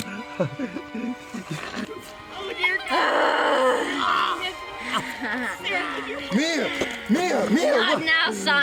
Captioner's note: Crying from wounded man, growling from Mia